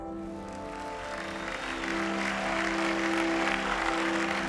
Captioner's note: applause